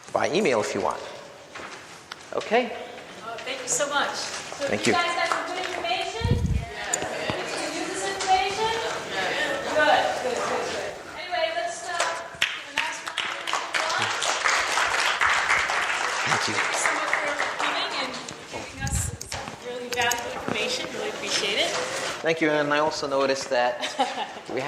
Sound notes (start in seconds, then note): 14.3 audience applauding; 17.3 audience applauding drowns out